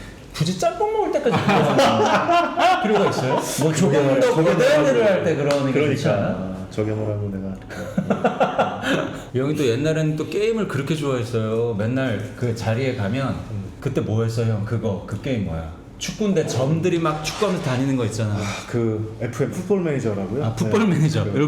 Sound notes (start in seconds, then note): 7.7 laughing